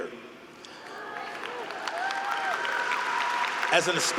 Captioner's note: group cheering